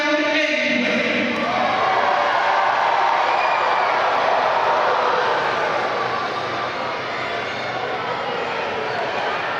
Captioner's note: applause